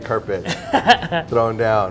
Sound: laugh

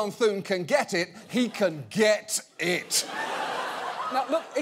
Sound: audience laughing

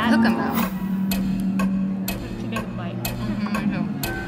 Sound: clock ticking

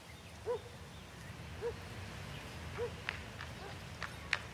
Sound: dog barking

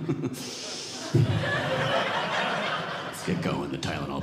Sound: audience laughing

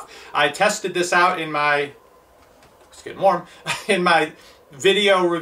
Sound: laughing

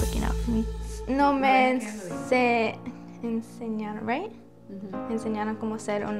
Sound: speaks in foreign language

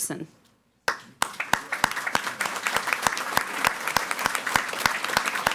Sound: audience applauding

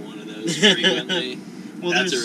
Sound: laughter

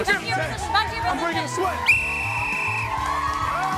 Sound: whistle blowing

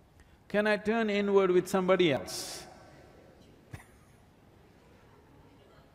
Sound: laughs

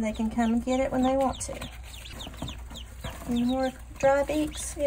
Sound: ducks chirping

